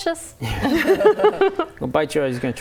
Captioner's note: laughing